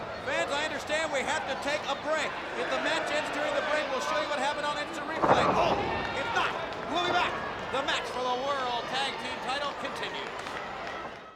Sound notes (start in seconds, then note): 5.2 body thudding